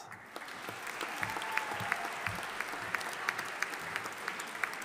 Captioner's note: audience applauding